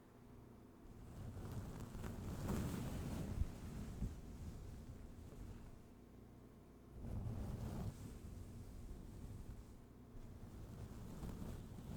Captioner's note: brushing continues